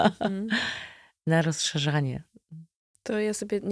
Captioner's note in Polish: śmiech; wciągnięcie powietrza